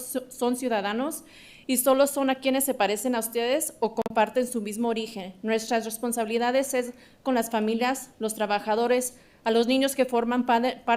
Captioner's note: speaking in spanish